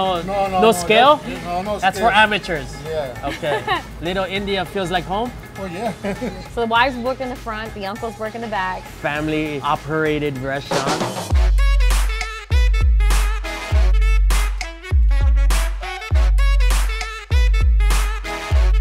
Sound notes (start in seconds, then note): 3.0 laughs; 11.4 upbeat, jazzy music